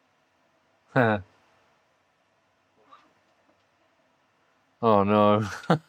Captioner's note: chuckles